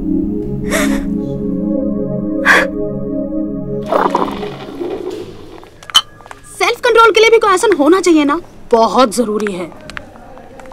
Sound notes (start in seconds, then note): 0.5 Poonam crying; 3.8 Coffee pouring